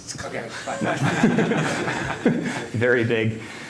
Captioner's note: laughter